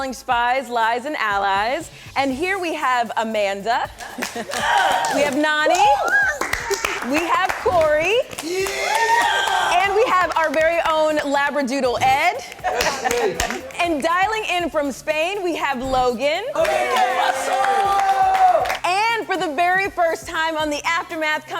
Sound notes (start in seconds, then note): 6.7 crowd claps; 16.5 crowd cheers